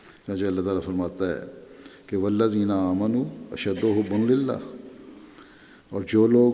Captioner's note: Arabic